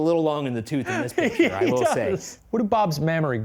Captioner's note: laughing